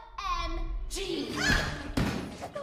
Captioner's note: screaming